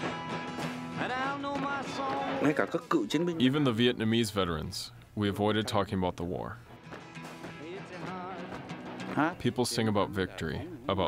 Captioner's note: through translator